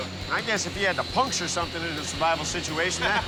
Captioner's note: laughing